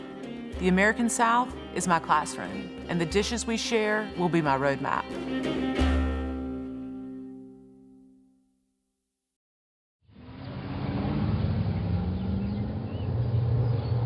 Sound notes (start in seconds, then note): 5.2 country music; 10.1 car engines hums